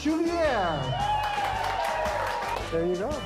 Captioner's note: cheering